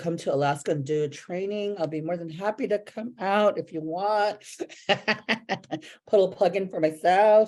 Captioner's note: laughs